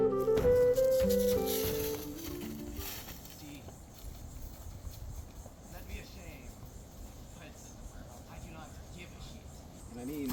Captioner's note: far off conversation